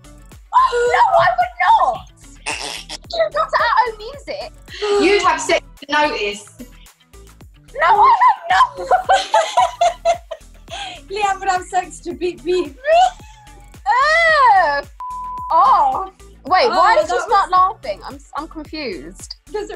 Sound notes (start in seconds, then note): 8.6 laughter